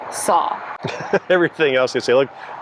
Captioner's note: laughing